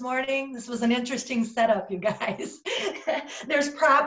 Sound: laughs

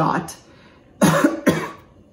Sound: coughs

